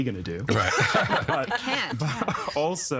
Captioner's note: all laughing